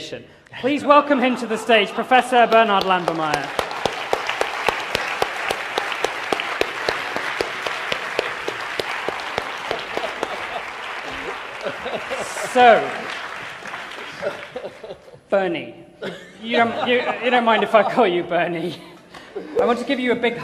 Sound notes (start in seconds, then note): 1.0 laughter; 6.7 applause and laughter